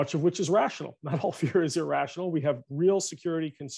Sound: chuckles

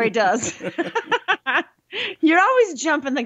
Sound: they laugh

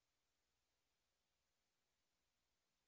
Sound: none

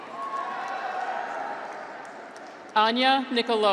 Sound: graduates cheer

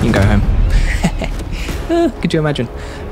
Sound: laughing

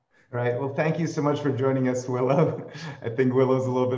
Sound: chuckles

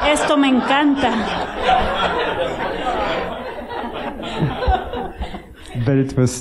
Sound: laughter

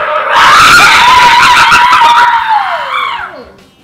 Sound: loud cheering; screams

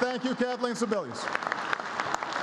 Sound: applause

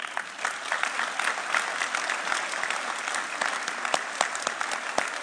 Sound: audience applauding

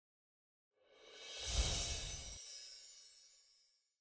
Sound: sparkling; screen whooshes

